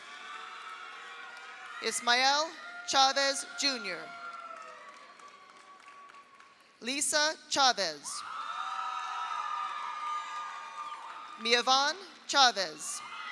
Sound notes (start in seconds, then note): 0.0 audience applauds; 0.0 audience cheers; 4.0 audience applauds; 8.2 audience cheers; 8.3 audience applauds; 13.0 audience cheers; 13.1 audience applauds